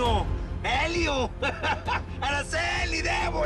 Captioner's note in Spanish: Risas